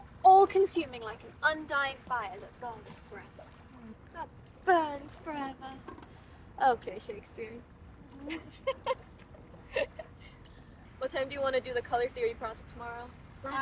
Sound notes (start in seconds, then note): 3.8 mockingly; 9.7 laughing